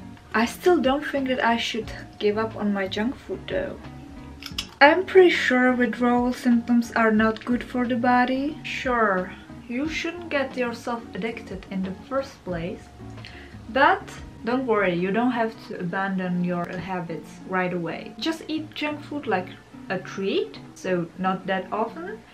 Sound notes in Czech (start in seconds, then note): 4.4 sní čips